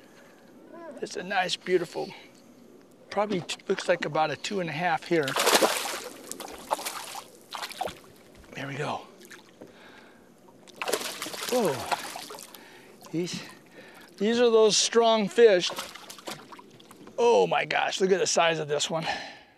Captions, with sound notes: it's a nice beautiful probably looks like about a two and a half here [splash] there we go [splashing] these are those strong fish oh my gosh look at the size of this one